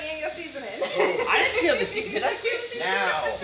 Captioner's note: chuckles